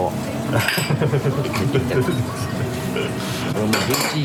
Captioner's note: laughs